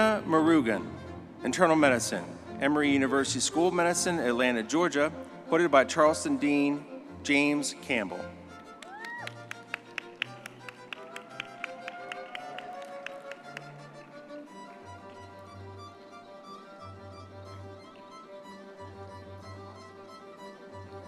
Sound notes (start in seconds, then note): 8.7 audience clapping and cheering; 15.5 triumphant music